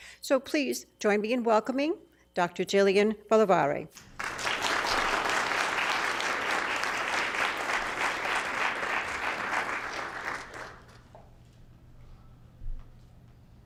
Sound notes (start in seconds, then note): 4.0 applause